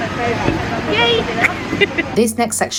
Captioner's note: laughs